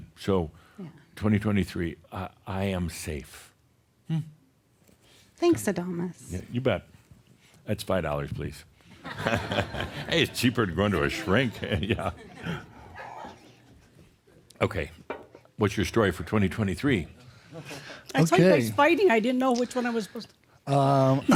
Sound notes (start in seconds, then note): 9.0 laughter; 11.0 chuckles